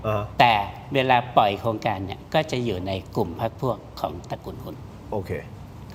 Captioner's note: none